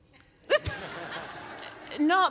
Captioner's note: audience laughs